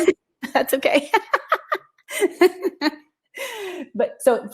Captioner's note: laughter